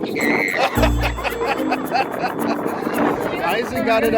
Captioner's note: squeals; all laugh